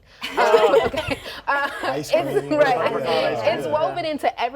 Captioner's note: group laughs